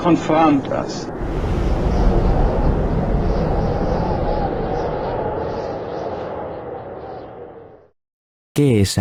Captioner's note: wind